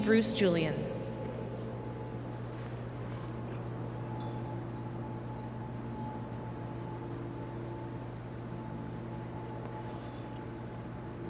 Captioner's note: speaking French